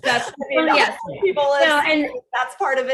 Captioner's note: laughs